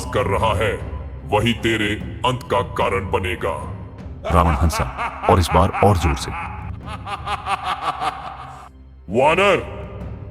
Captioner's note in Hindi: हंसी